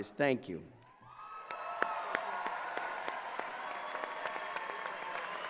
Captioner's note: cheering and applause